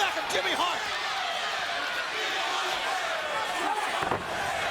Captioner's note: crowd chattering